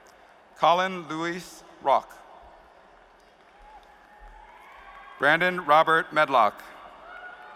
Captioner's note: cheers and applause